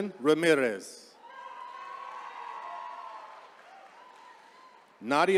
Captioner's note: attendees cheering